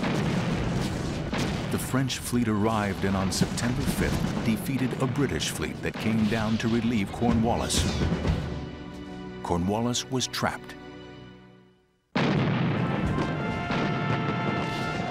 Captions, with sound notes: The French fleet arrived in on September 5 defeated a British fleet that came down to relieve Cornwallis. Cornwallis was trapped. [war sounds]